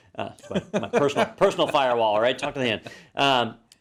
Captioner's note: laugh